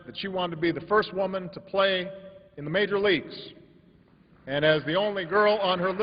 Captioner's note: applause